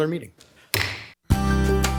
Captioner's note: mallet thudding; upbeat music